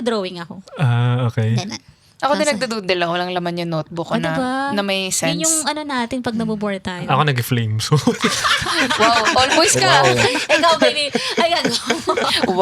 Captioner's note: speaking in foreign language